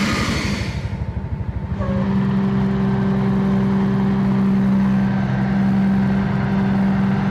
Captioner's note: engine rev